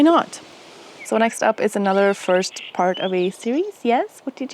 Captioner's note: bird chirping